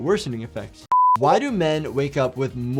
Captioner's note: beeps